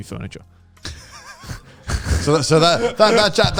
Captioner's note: laughs